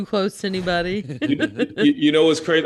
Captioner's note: laughing